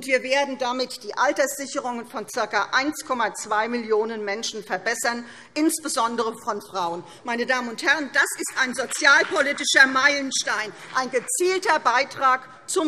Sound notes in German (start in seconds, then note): 8.2 Beifall CDU